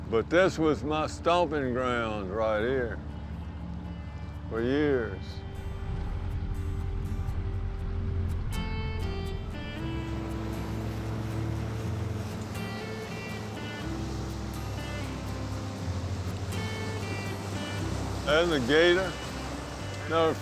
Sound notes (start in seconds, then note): 8.1 gentle music continues; 11.9 boat motor humming